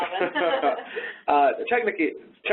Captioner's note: laughing